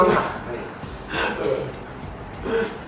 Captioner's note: laughs